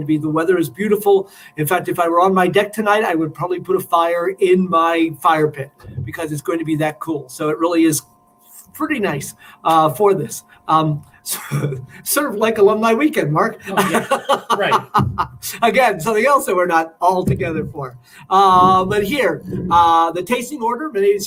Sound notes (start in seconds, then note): 13.6 laughter